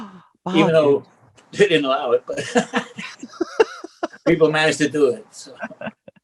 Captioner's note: laughs